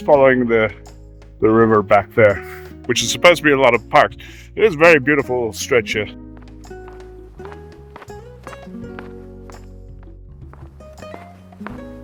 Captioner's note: foot steps